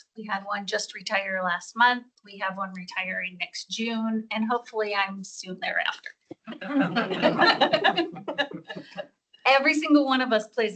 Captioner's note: laughter